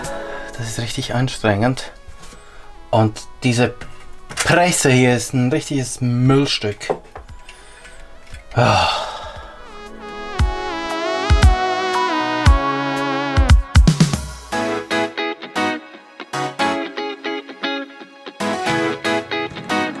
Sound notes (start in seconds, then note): 8.5 sigh